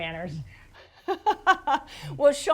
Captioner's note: laughs